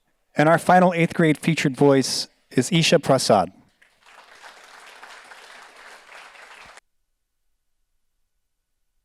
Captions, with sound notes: And our final eighth grade featured voice is Isha Prasad. (audience applauds)